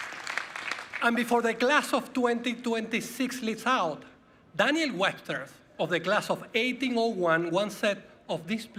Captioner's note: applause